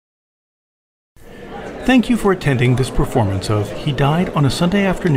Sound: audience chatter

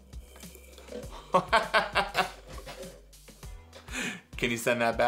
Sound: Mr. C laughing

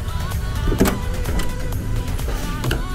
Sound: door knob clanks

